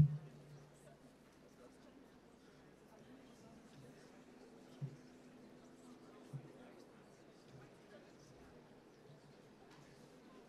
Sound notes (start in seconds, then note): none